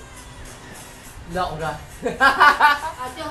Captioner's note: laugh